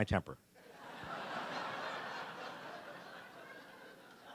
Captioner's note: audience laughing